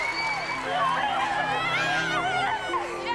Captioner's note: whooping, cheering, whistling, clapping; indistinct, overlapping chatter